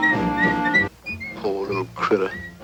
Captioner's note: whistling